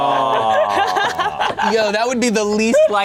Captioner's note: laughing